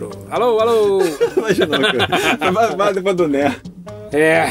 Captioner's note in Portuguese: risos